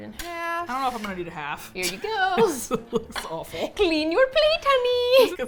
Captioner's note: laughs